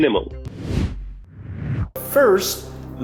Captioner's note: logo swooshing